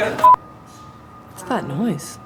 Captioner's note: electrical humming